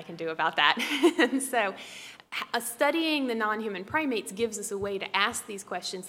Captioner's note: laugh